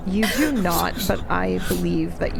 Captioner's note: Rasroth whispering